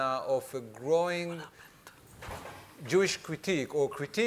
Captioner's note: speaking faintly